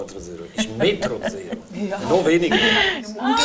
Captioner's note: laughs